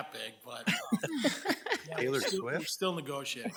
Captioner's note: laughing